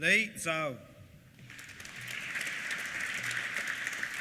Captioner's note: applause